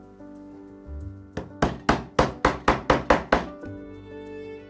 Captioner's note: hammering sound